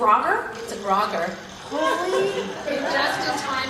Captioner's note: laugh